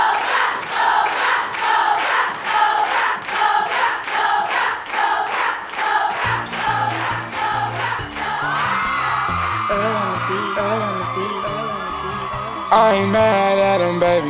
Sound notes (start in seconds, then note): 0.1 crowd; 7.6 crowd screams